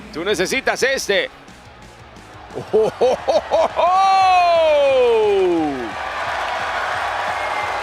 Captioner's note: laugh